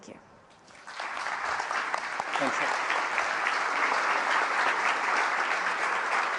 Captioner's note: applause